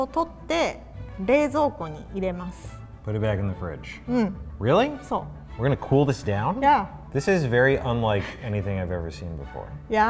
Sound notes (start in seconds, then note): 5.2 speaks in foreign language